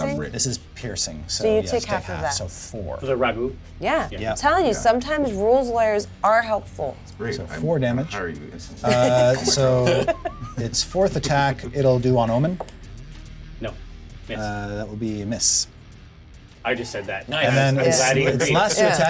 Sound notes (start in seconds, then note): 8.8 laughs